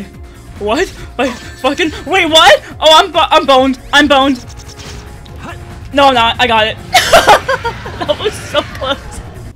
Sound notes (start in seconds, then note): 6.9 Laughter, Biolizard roars